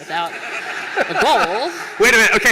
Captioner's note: laughter